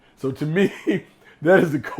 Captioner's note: laughs